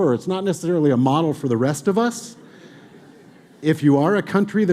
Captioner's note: audience laughing